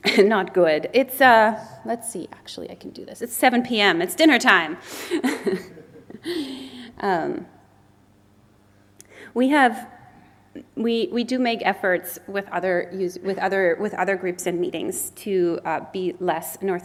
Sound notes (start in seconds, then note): 5.0 laughs